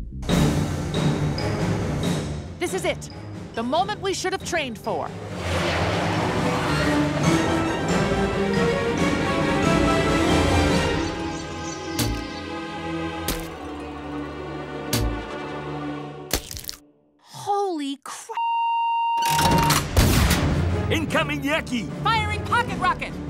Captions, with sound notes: (suspenseful music) - This is it, the moment we should have trained for. (slime splats) Holy cra- (machine beeps) - Incoming yucky! - Firing pocket rocket!